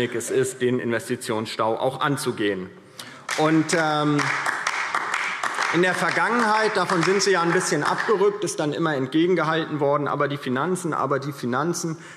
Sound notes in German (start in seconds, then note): 3.2 Beifall DIE LINKE